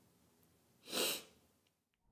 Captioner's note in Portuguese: Snif